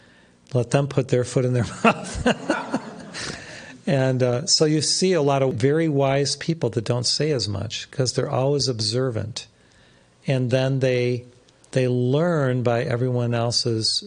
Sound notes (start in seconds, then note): 1.6 laughs